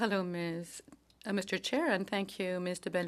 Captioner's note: speaking in French